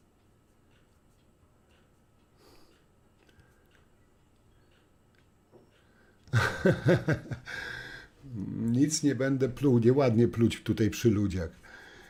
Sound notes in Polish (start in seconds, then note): 6.3 śmiech